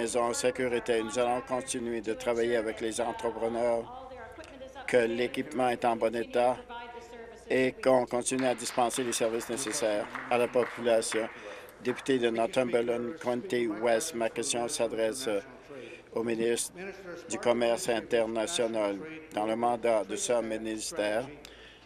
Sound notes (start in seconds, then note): 11.7 applause